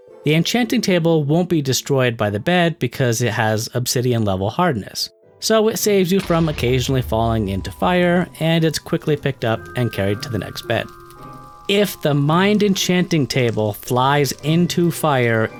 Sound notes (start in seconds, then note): 6.2 explosion